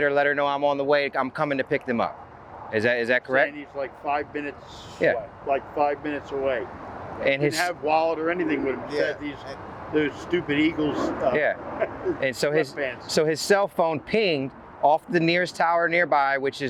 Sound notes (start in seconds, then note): 11.1 faintly speaking